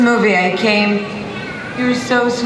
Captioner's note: baby babbling